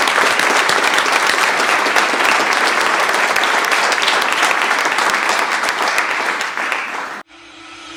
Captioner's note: applause